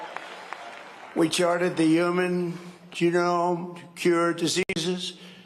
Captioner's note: cheering and applause